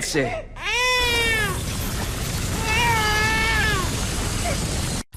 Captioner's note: crying baby